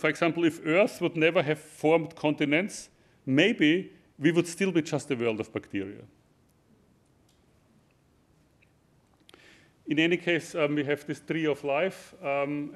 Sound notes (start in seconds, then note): none